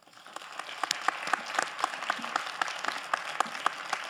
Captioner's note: all applauding